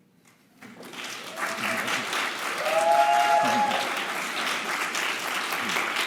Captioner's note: audience cheering and applauding